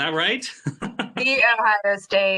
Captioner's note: laughing